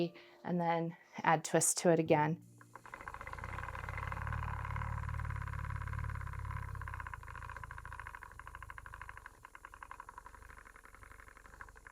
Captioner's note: spinning Wheel Sounds